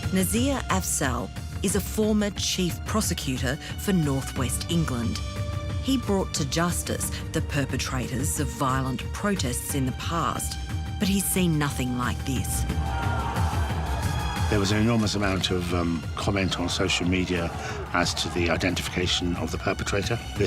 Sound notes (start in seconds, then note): 12.7 protestors yelling